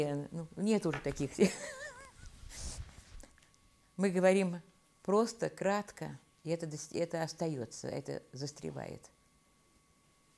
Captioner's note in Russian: смеется